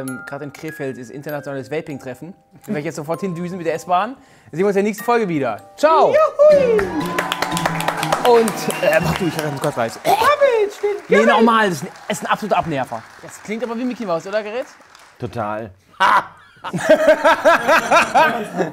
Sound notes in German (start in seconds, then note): 15.9 Lachen